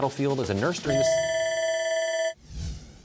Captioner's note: bell ringing